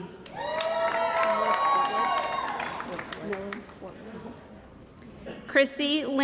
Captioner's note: cheering & Applause